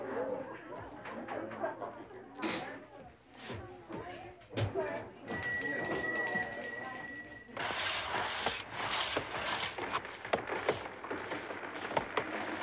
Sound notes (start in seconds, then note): 5.3 bell ringing